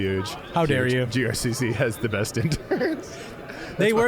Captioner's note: giggling